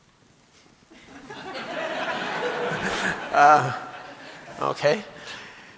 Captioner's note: audience laughing